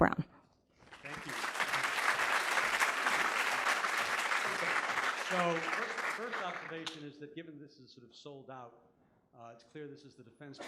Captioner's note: applause